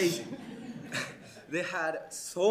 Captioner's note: crowd laughing